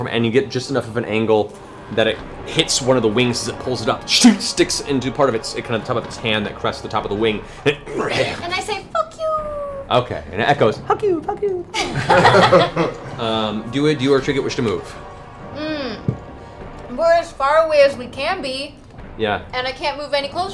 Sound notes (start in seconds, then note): 7.8 growls